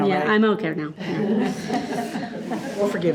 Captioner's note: all chuckling